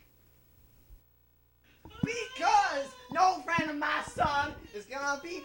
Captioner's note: crying